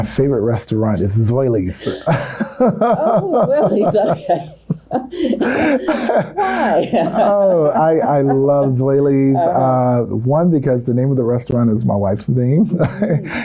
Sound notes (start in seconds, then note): 5.1 both laugh